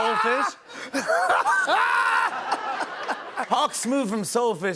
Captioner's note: laughter